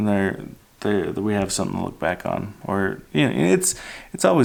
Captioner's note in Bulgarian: none